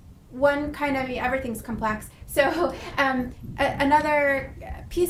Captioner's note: laughing